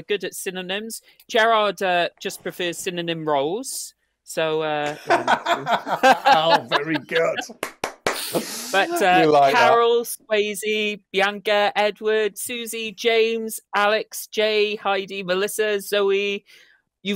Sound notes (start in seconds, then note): 4.8 laughter; 7.3 claps